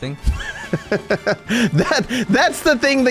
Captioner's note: laughs